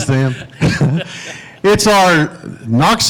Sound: laughing

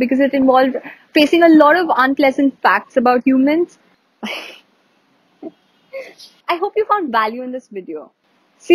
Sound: giggle

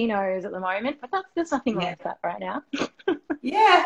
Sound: laughing

